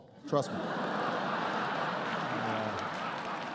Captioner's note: laughter